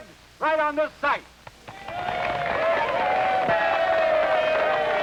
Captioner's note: audience cheering